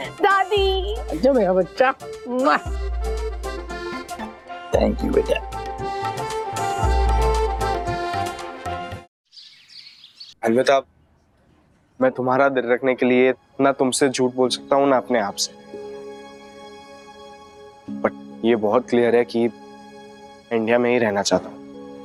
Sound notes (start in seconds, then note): 9.2 birds chirping